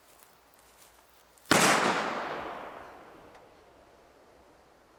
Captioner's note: gun shot